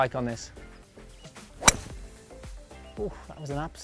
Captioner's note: birdsong sounds